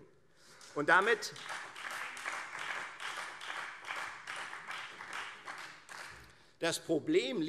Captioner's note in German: Beifall Freie Demokraten